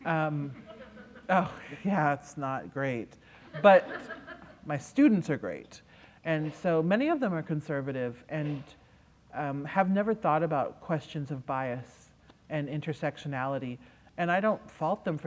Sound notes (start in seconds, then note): 3.4 laughter